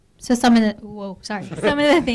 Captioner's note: voiceover